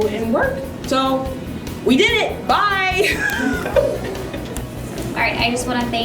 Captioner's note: laughter